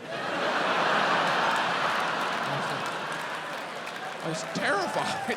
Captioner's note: audience cheering, applauding